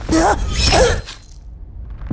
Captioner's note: stab!